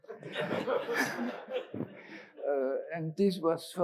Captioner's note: all laugh